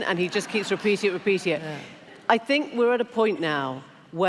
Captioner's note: laughter